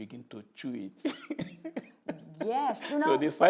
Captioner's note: laughs